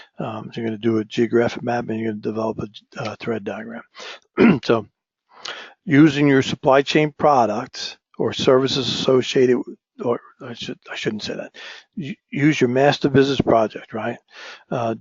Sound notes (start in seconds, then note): 4.3 cough